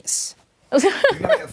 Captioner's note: laughter